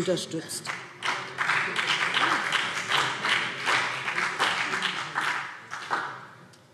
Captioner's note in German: Beifall BÜNDNIS 90/DIE GRÜNEN und CDU